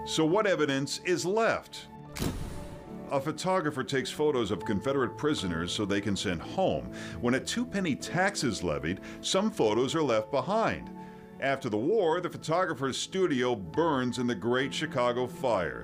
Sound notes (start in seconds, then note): 2.1 gunshot